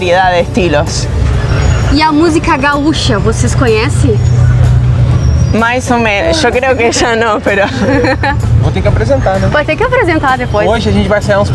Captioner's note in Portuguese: risos